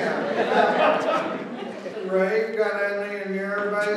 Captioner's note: laughter